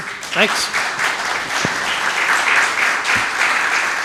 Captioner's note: audience applauding